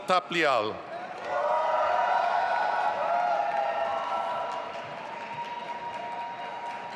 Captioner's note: audience applauding and cheering